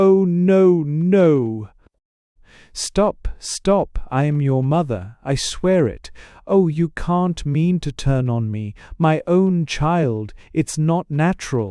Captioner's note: determinedly